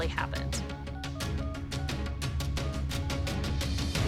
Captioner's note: dialling